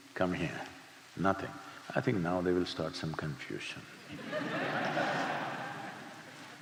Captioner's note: laughter